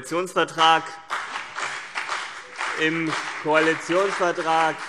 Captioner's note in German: Beifall CDU und BÜNDNIS 90/DIE GRÜNEN